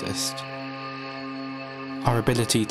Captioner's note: high shimmery sound